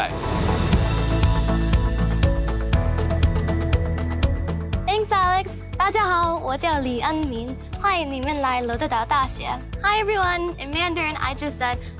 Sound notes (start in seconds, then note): 0.1 bright music; 5.7 speaking in Mandarin